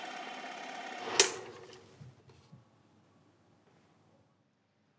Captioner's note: film reel stops